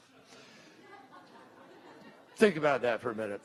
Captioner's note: laughter